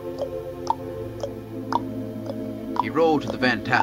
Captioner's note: sound of horse "clip-clop"